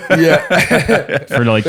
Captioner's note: laughs; laughter